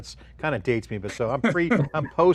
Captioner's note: chuckling